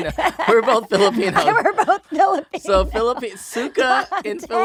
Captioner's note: laughing